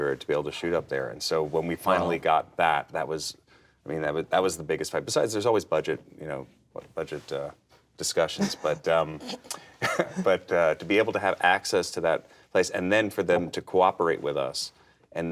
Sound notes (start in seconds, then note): 8.3 giggles